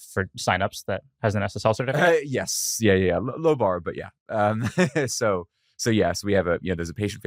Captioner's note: laughs